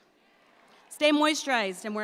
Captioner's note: audience responds